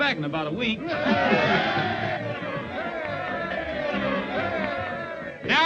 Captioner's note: crowd cheering